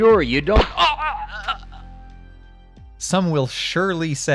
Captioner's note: suppressed gunshot